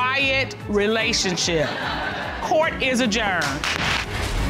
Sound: audience laughing

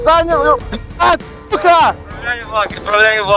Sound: connection interrupted

